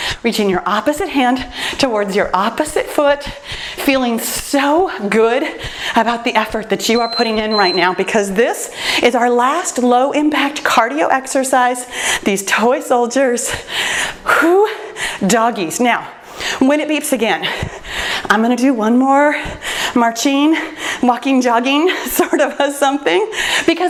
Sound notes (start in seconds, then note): 6.8 timer beeps